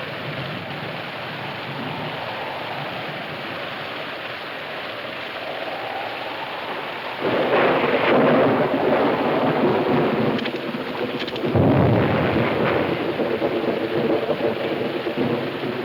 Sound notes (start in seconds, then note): 5.6 thunder claps; 5.6 wind howling